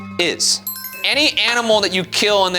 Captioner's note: bells chime